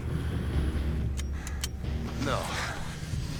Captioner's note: gun clicking